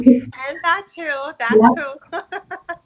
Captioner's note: laughs